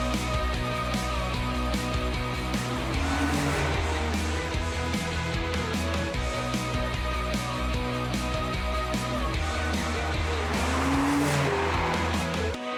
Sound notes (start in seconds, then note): 3.2 engine roars; 5.8 upbeat rock